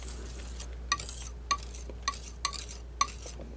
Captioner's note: scratching